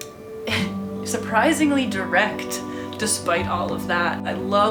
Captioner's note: laughs